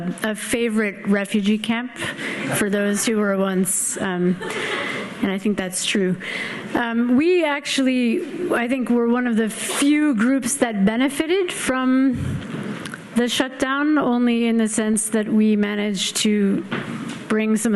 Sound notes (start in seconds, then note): 4.4 audience laughing